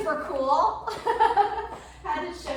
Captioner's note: laughs